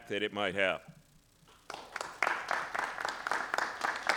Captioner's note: applause